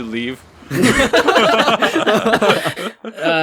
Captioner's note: laughing